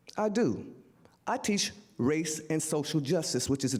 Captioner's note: none